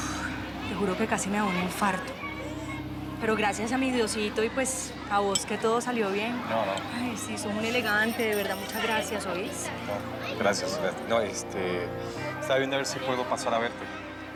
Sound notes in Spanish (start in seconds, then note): 0.0 exhala